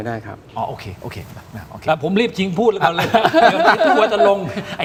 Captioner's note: laughs